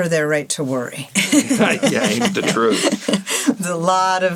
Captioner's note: laughing